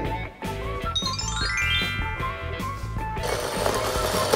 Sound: magic twinkling; wheels rolling

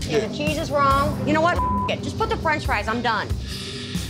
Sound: beep

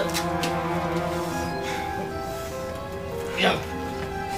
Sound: breathing heavily

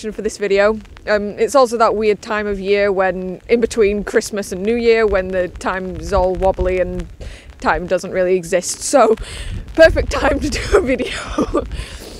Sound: laughs

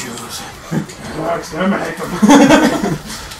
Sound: laughter

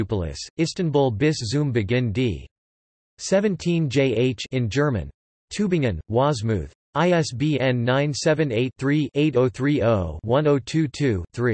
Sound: in German

